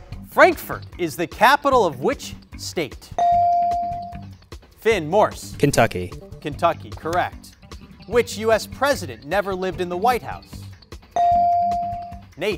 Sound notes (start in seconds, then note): 3.2 bell rings; 11.2 bell rings